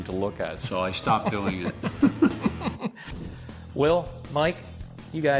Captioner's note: laughter